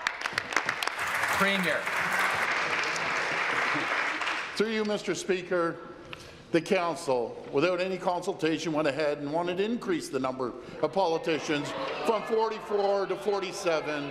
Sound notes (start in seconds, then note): 2.7 some Applause